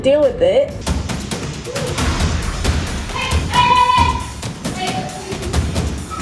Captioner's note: intense music; yelling